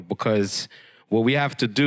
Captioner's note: none